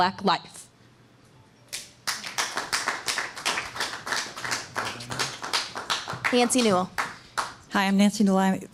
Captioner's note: applause